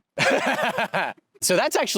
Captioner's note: laughs